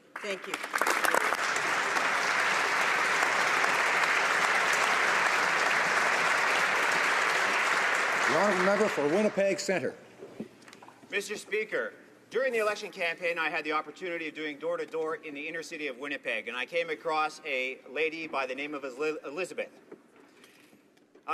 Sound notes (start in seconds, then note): 4.6 applause